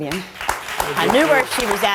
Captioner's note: crowd applauding